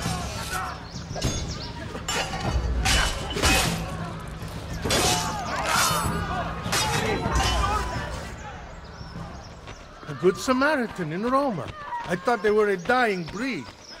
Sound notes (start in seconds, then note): 0.0 fighting sounds